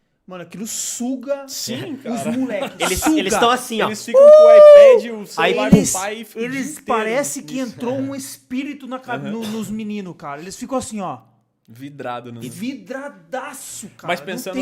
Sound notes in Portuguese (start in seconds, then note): 1.7 risos; 4.1 começou a emitir sons estranhos de alegria